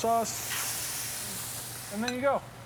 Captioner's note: pan sizzling